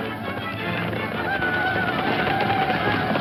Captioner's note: hooves thumping; Indians screaming